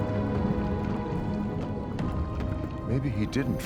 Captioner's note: dramatic music continues; liquid bubbling